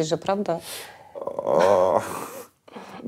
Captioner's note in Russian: неуверенно смеется